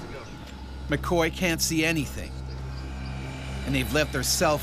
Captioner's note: voiceover